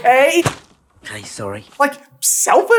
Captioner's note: thwap